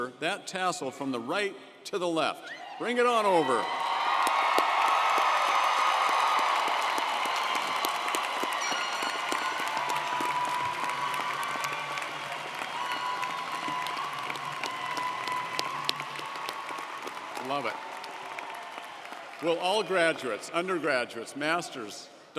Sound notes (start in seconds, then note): 5.2 audience cheering & applauding